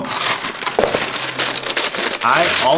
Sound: paper rustling

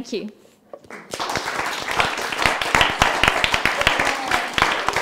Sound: audience claps

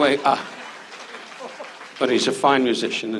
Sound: audience claps

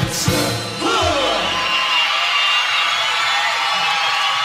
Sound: crowd screaming

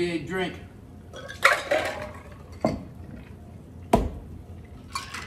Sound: glass clanging

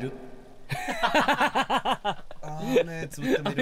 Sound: laughs

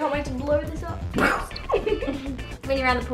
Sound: mimics explosion; laughter

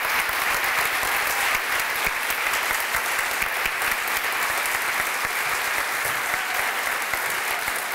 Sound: applause

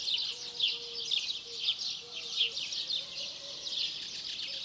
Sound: birds chirping

